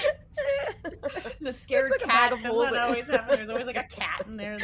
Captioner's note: all chatting and laughing